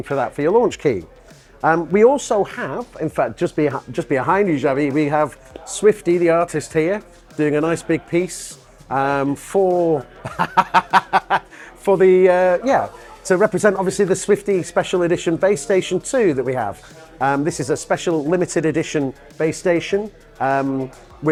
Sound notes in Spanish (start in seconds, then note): 10.2 risas